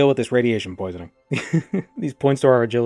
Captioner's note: chuckling